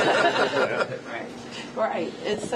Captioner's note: laughter